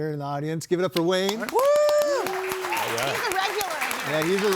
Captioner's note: audience applauds